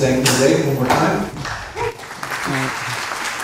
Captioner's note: applause